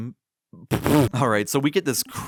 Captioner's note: snorting